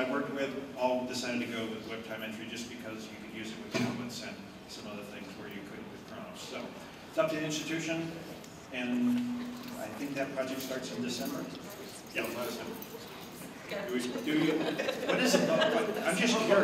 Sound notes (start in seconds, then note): 14.2 laughter